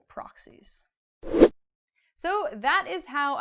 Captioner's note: air whooshing